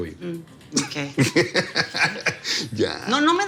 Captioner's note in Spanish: Risas